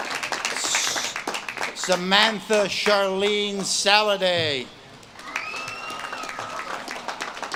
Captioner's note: audience claps and cheers